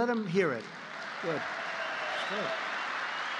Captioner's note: applause